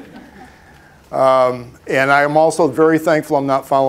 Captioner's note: laughter